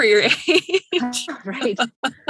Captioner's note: laughs